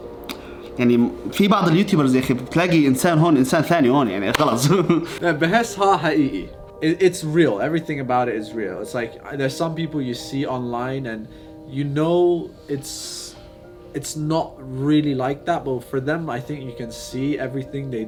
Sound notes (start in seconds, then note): 9.7 continues in English